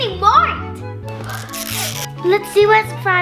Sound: plastic ripping

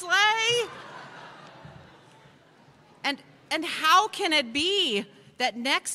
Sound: laughter

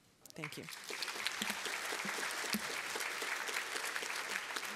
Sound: applause

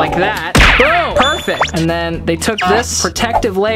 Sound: bell rings

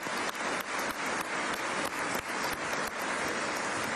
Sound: applause

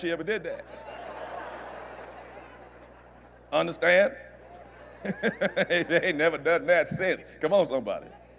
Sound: laughter

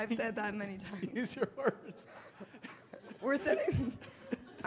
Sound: laughs

